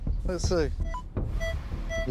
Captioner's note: beeping